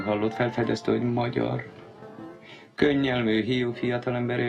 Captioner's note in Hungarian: gúnyosan